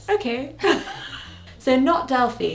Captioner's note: laughs